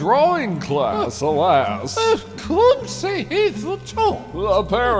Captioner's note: french